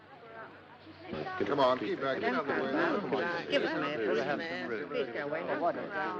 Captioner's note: crowd babble